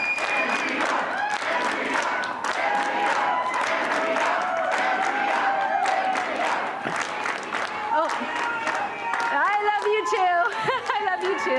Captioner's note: chanting